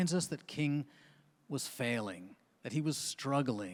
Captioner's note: none